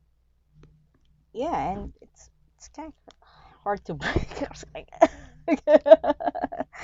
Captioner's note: laughs nervously